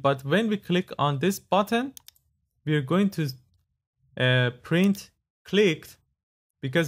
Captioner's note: clicked